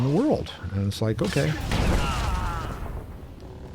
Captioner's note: gunshots